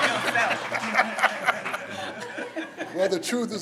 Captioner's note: everyone laughs